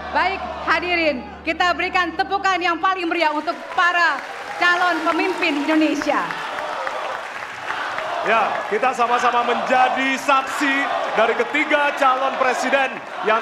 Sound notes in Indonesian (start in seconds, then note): 6.6 tepuk tangan